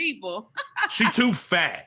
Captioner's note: laughs